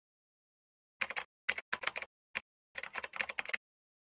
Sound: typing

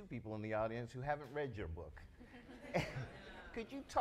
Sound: audience laughs; laughs

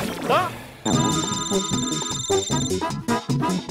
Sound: cellphone ringing

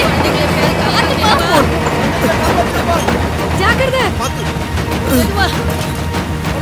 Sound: drowning in water

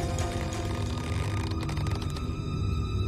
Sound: rope stretching

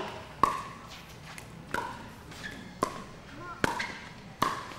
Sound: ball bouncing

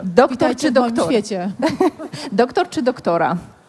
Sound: laugh

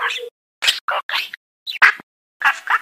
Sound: twittering and barking

